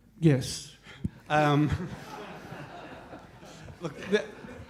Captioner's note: audience members laughing